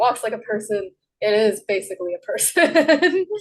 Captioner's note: laughs